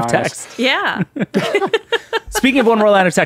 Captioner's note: laughing